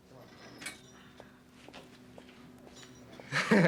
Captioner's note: heels clicking; laughs